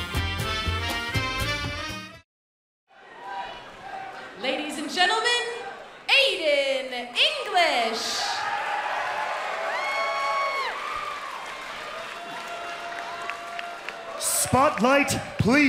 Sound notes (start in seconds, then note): 4.8 crowd chatter; 10.9 crowd cheering